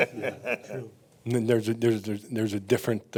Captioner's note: laughing